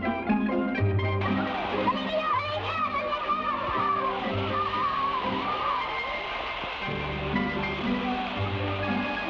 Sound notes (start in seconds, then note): 1.1 fireworks hiss; 1.5 boys shout